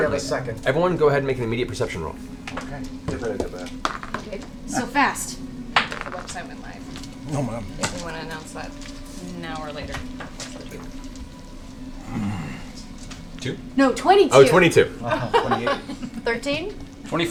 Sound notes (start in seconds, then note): 14.5 laughs